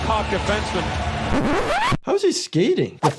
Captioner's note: audio squeaking